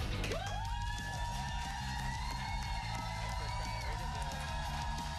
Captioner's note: cheers and applause